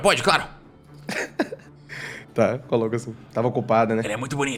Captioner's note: laughs